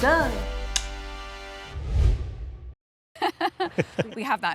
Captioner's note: clicks tongue; both laughing